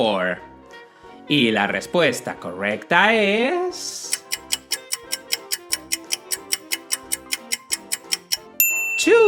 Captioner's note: clock ticking sound